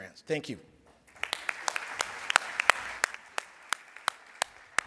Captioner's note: applause